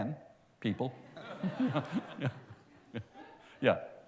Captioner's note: laughter